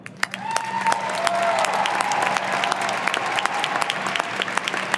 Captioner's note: audience applauding